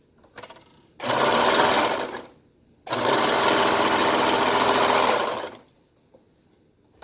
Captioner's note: sews Piece Together on Sewing Machine